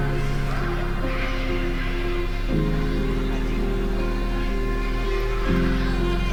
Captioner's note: distant children playing continues